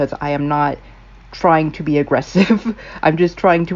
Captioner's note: laugh